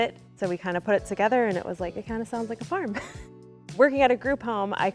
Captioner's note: chuckling